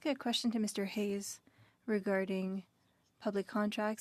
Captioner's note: speaking French